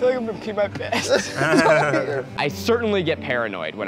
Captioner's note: giggling